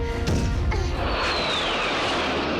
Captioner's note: jet roars